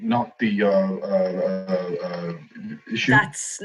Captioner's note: stammers